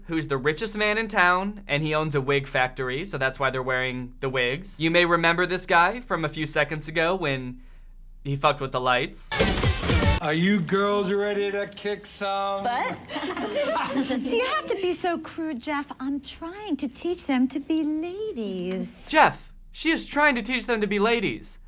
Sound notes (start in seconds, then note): 9.3 zapping sounds; 13.1 laughing